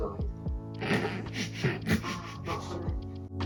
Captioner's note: more super cute laughter from yours truly